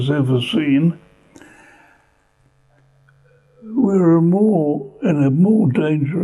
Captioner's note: pauses for 3 seconds